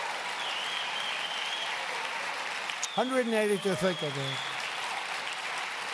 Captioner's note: applause